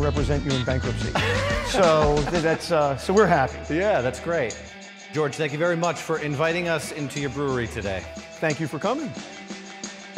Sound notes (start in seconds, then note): 1.1 laughing